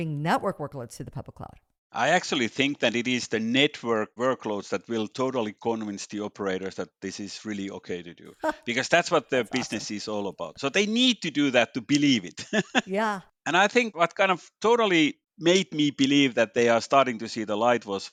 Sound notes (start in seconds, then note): 12.5 laughs